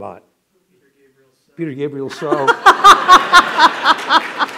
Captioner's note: laughter